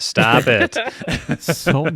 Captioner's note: laughing